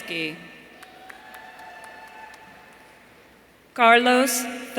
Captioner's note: audience cheering